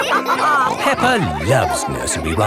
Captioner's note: all laughing